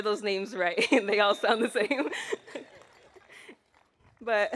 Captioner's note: laughs